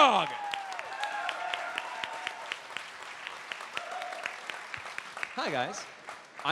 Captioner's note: cheering